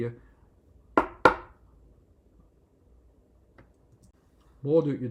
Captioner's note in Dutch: >> silence, ... listen>>